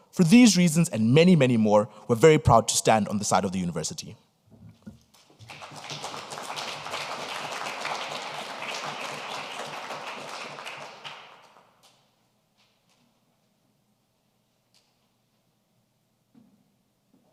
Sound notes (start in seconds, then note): 5.2 audience applauding